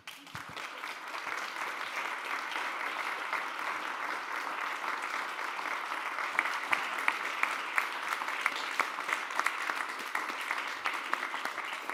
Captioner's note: applause